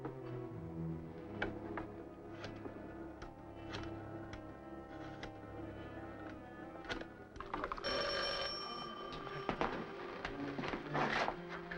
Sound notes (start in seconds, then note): 7.6 phone rings